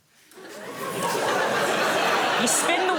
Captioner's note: laughter